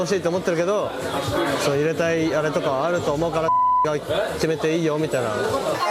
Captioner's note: beep